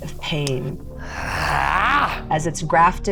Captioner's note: yells